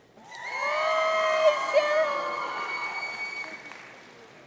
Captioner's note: audience cheering